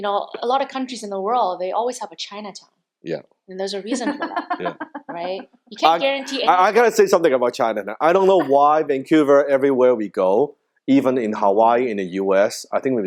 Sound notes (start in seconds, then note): 3.8 laughing